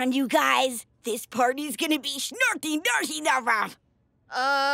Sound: imitates alien language

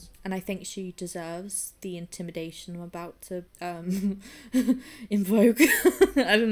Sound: laughing

